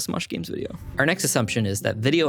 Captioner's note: screen whooshing